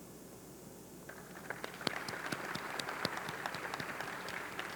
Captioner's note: audience clapping